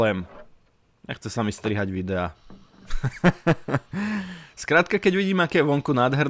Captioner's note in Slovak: smiech